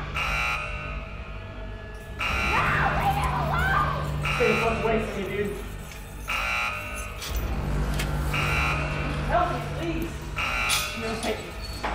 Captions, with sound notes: Sean! (alarm blaring) No, leave him alone! - Stay the fuck away from me, dude. (ominous music) Help me, please.